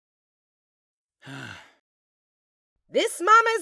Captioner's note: nickel sighs